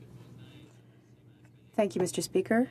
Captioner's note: speaking French